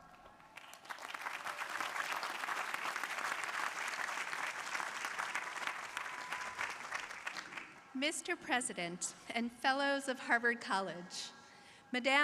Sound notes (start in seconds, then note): 0.0 crowd applauding